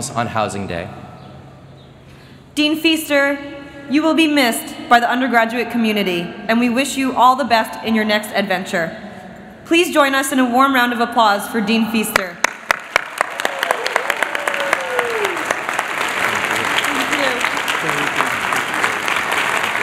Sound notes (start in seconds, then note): 12.4 applause